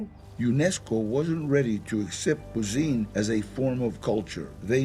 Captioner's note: in English